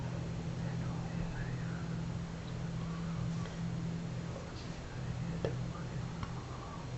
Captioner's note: foregin language